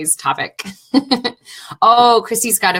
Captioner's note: laughing